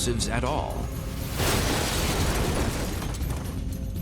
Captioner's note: explosion